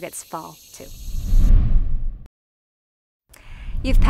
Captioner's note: air whooshes